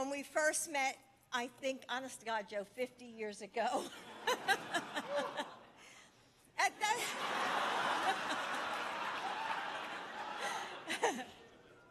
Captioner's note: laughter